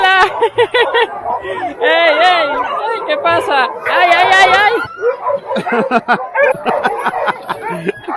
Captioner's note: barking, laughing and more laughter